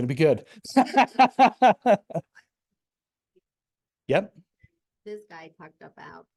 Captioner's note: laughs